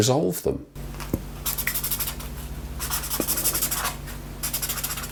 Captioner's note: marker pen scribbling